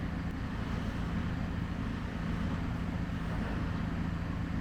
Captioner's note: humming continues